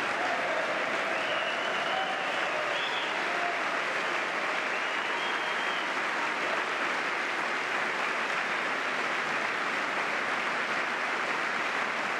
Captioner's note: applause